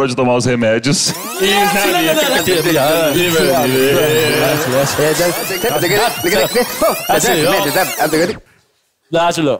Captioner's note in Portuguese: fita rebobinando